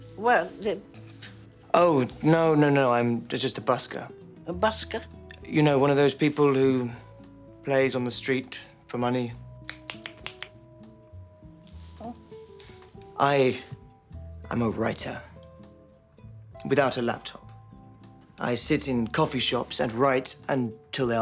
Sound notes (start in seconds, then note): 9.6 snapping fingers